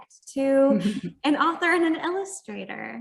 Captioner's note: chuckles